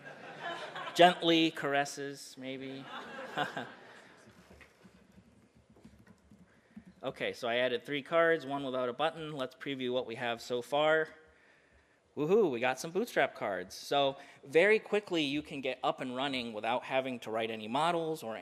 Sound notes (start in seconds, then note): 0.0 audience laughs; 2.7 audience laughs; 5.0 computer typing